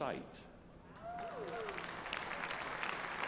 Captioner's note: applause